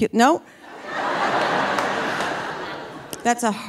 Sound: audience laughing

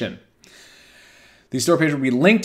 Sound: inhales

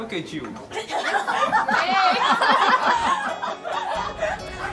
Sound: laughing

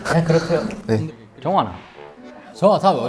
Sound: Busan dialect

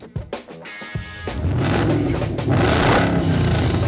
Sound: engine revs

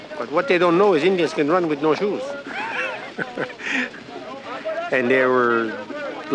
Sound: laughs

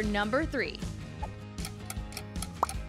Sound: timer ticking; pop

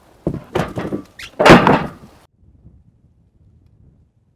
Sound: loud bang

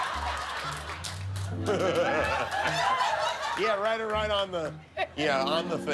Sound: laughter

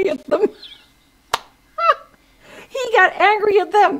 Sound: Rita laughing

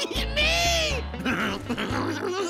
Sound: giggling

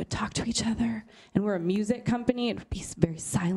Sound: whispering

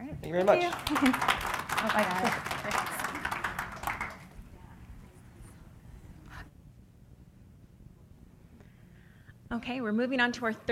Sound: applause

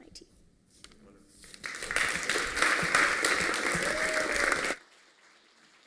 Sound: applause

